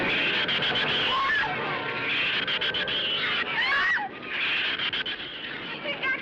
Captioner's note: screams